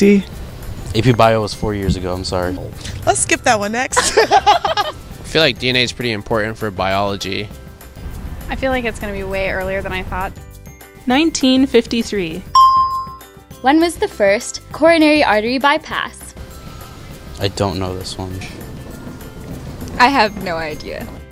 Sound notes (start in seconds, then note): 3.9 laughter; 12.5 bell rings